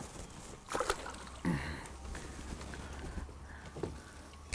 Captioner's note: water splashes